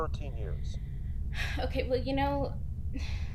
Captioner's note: sighing